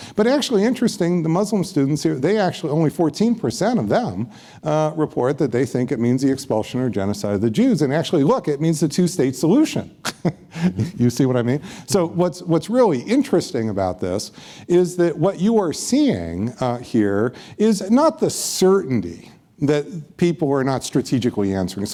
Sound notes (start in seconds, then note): 10.0 laughs